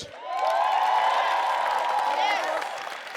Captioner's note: audience cheers